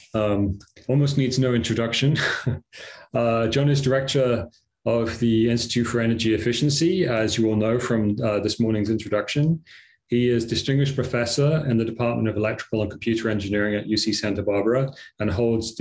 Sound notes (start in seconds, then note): 2.2 laughter